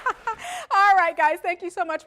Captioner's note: laughter